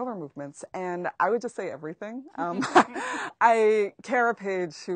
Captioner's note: laughs